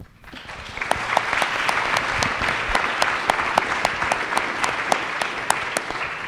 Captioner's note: applause